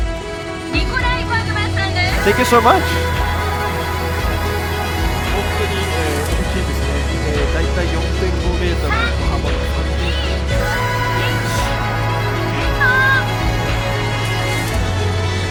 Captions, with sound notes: - Thank you so much. (dramatic orchestral music) (countdown in foreign language)